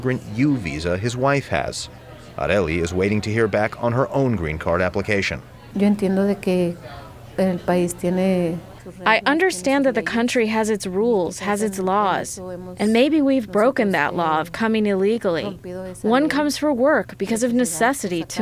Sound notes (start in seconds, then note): 6.7 through translator